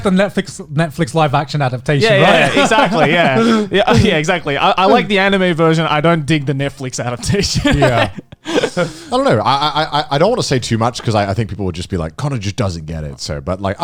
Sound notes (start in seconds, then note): 2.0 laughs; 7.2 chuckles